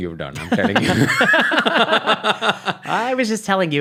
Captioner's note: laughing